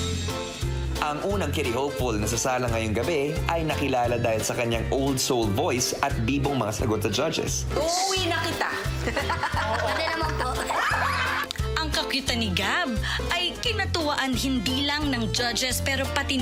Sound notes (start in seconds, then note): 0.3 playful music playing; 8.0 laughing; 11.6 laughter